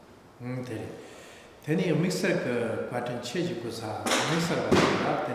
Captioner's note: speaking tibetan